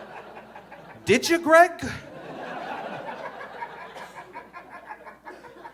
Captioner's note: audience laughing